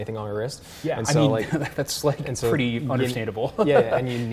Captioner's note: laughs